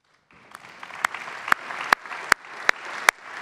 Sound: clapping

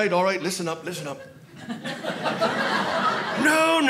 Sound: audience laughing

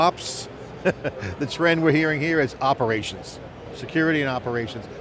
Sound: laughs

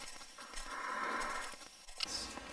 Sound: breathing

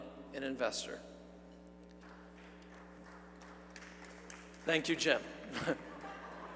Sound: applause; laugh

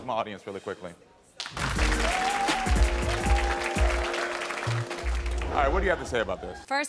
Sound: audience applauds; upbeat music

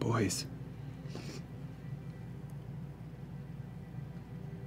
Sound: none

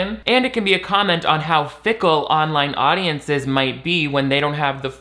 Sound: none

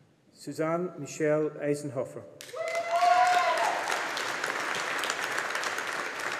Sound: audience applauding

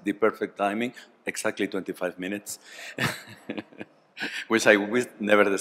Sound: laughs

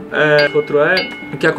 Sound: ding!

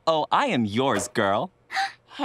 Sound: gasping

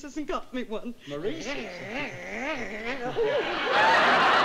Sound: growling; giggling

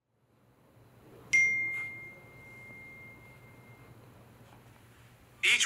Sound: message pinging

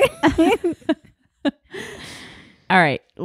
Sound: laughing

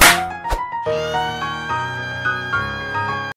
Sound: screaming

